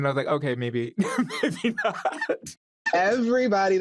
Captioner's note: laughs